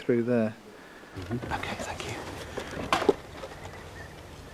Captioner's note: whispers